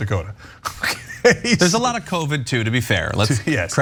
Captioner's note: laugh